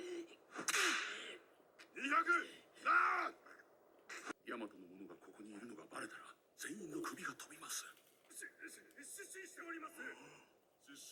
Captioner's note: cries